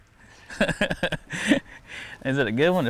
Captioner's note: laughs